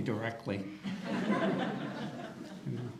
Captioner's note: audience laughter